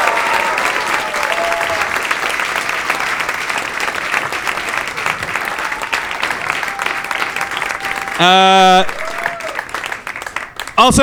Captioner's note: audience applause